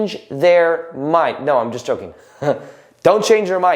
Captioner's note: chuckles